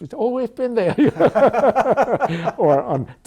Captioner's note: laughter